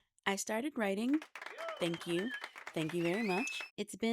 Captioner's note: applause